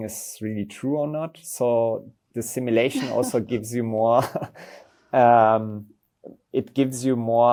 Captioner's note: laughs